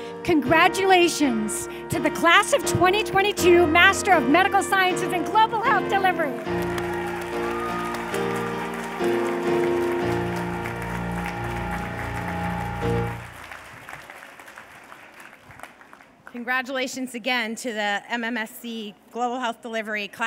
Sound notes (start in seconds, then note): 6.2 cheers and applause